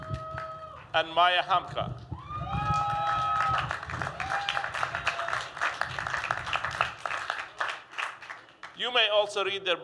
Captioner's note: applause